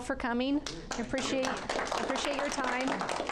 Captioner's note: class clapping